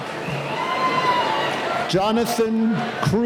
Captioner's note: cheering